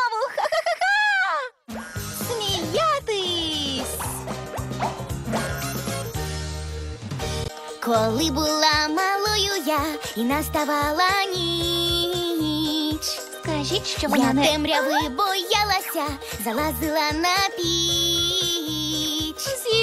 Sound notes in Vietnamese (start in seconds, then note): 2.9 Smiyatysʹ!